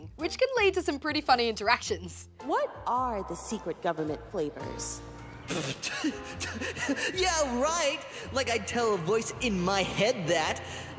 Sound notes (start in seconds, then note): 5.5 laughs